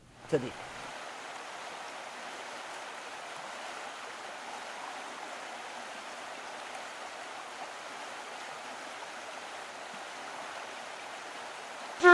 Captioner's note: sound of a stream